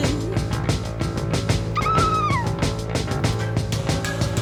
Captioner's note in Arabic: تصرخ آنا